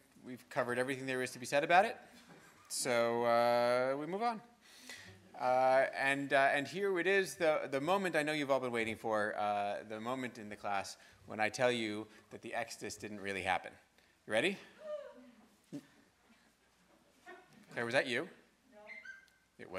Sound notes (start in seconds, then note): 15.0 one student cheering